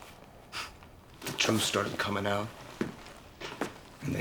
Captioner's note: sighs